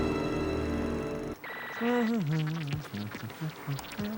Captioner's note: humming